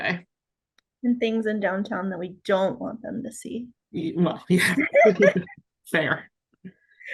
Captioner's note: laughs